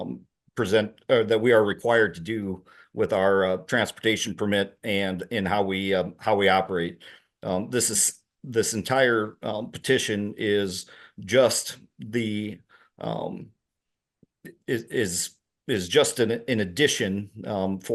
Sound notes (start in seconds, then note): none